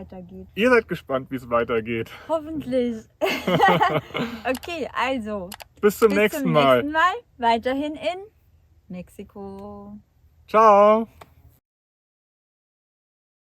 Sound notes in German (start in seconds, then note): 3.2 Lachen